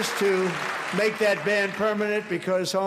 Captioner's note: applause